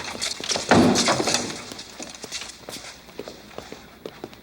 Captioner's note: head thuds